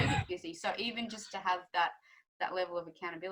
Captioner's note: laughs